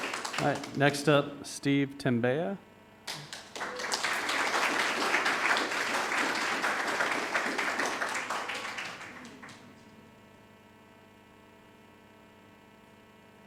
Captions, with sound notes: Right, next up, Steve Tembeya. (audience applauding)